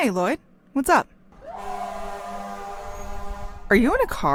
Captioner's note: traffic sounds